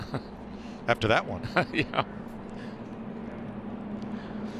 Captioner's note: laughter